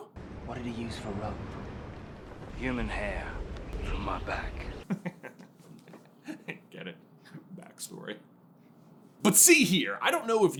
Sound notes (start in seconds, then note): 4.8 giggles